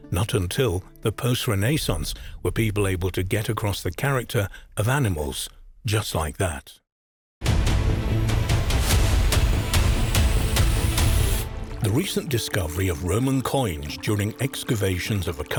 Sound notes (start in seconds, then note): 7.4 intense music; 11.4 water trickling